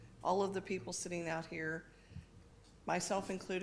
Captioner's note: none